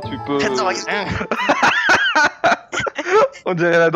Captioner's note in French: rires